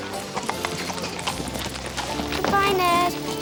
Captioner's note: hooves clop